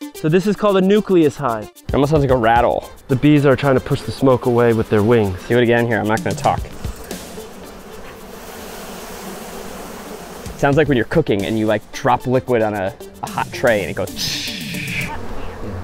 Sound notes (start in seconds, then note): 7.4 bees buzzing; 14.5 imitates sizzling